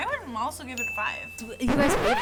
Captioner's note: bell dings